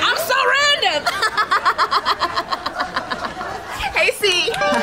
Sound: laugh track

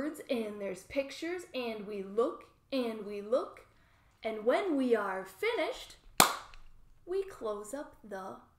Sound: clap hands

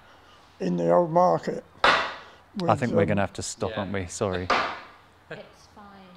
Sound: bang

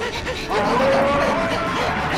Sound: panting; roaring

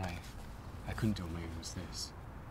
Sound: none

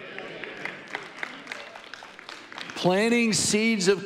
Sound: audience applauding

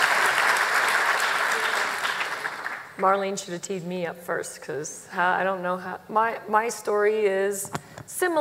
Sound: applause

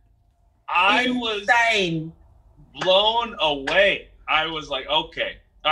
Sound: clapping hands

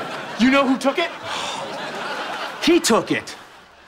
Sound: sighing

